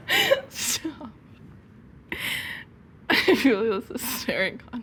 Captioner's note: laughs